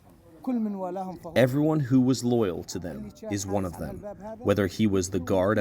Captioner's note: through translator